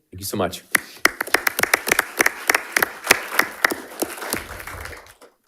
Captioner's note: audience applauding